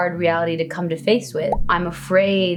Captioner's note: bubble popping